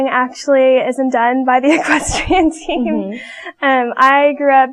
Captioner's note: laughs